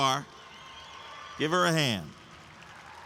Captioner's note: audience applauds and cheers